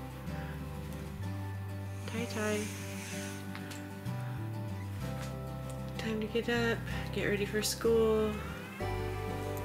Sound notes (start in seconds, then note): 1.8 breathing in